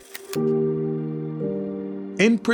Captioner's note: logo clicks; gentle music